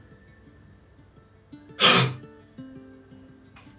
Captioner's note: gasp